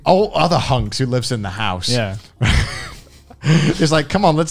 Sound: laughs

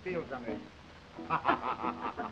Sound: jakie laughs

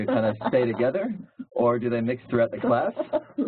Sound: laugh; laugh

